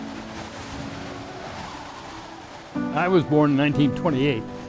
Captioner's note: wind blowing; soft piano music